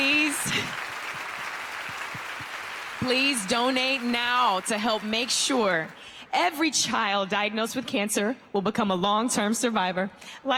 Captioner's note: applause